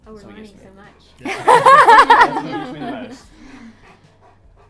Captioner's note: all laugh